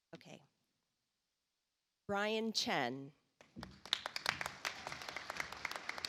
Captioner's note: audience applauds